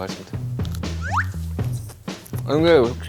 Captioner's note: gulp